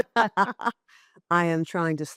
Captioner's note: laughing